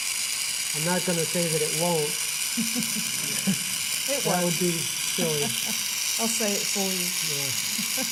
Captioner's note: laughter